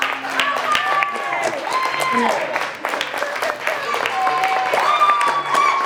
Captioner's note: audience cheering and applauding